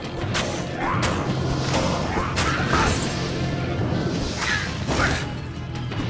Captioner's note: enemies grunting; weapons clanging